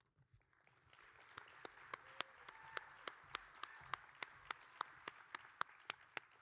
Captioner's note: audience and applauding